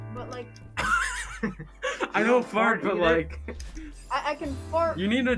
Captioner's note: laughing